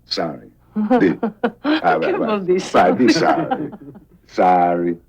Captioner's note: speaking foreign language